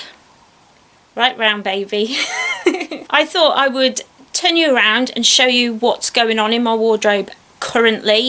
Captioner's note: giggles